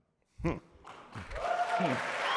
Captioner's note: applause